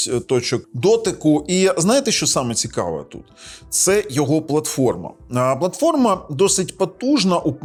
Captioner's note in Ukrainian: сопіння